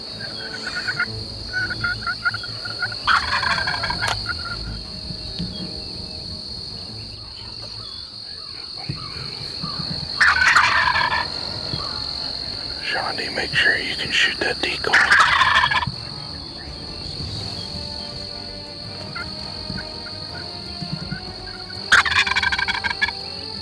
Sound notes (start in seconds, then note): 0.0 turkey gobbling; 0.2 turkey calling; 3.0 turkey gobbling; 10.2 turkey gobbling; 14.9 turkey gobbling; 18.9 turkey calling; 21.9 turkey gobbling